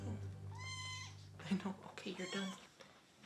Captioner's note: kitten meows